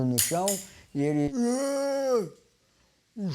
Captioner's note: mimicking Mucungê